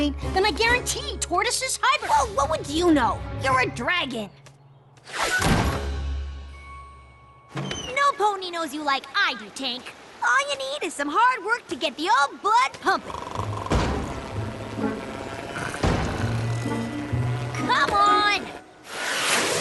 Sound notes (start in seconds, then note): 5.2 slam; 13.0 snoring